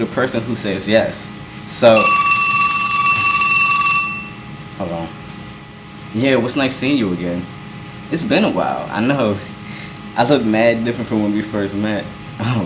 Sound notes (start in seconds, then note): 1.9 phone rings